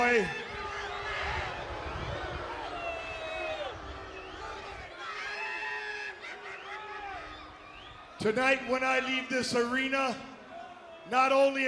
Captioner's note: crowd cheering